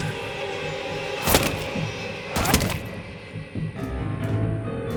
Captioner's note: pistol booming; bullets thumping